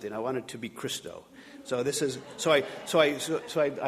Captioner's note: audience laughing